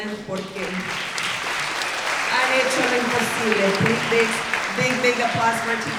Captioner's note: everyone applauding